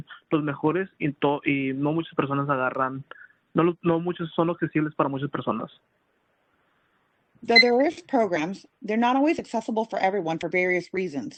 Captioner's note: speaking Spanish